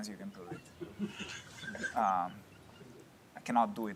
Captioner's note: laughter